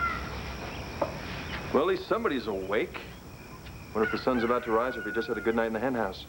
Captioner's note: rooster crows